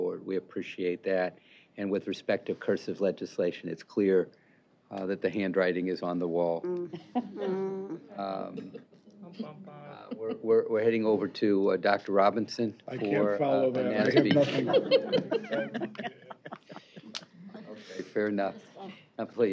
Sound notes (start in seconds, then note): 7.0 laughter